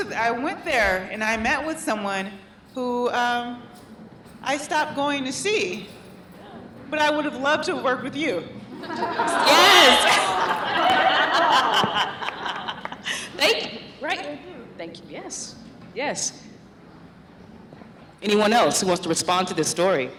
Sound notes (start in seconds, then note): 8.7 laughter; 8.8 laughs